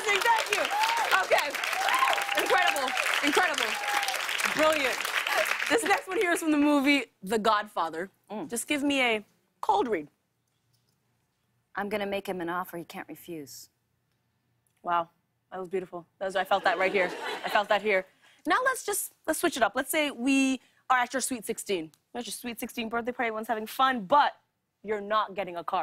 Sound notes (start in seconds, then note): 16.6 laughter